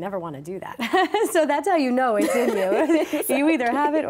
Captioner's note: laughter